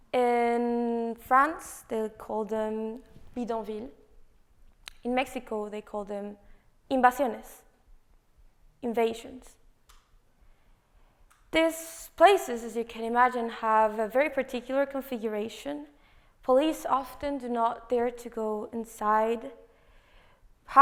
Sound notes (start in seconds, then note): 8.8 spanish